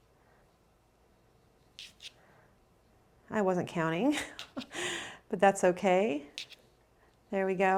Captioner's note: laughs